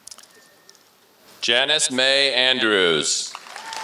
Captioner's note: applause